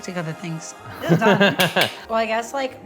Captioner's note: laughs